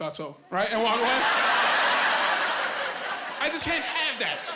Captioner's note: laughing